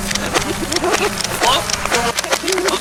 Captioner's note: balls shooting